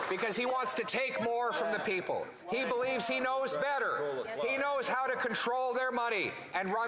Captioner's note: applause